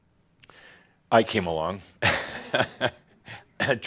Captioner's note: Adamus chuckles